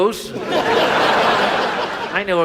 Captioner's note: audience laughs